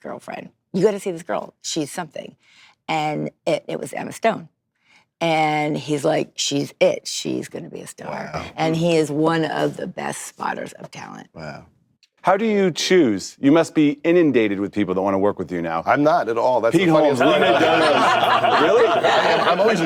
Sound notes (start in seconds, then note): 17.1 laughter